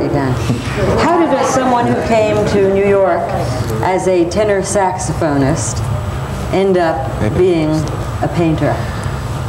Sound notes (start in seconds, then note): 0.5 audience muttering